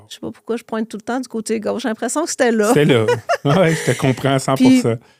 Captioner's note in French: rires